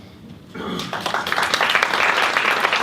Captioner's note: applause